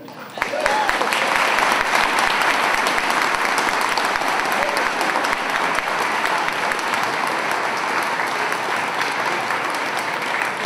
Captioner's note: applause